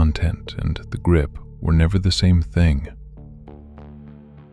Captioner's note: low voice